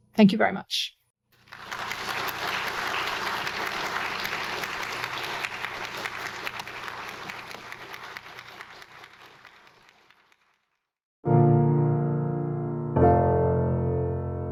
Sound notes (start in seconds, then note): 1.6 audience clapping; 11.2 stately piano music